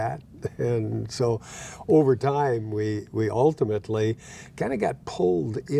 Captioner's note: laughing